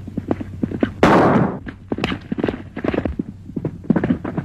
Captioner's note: gun fires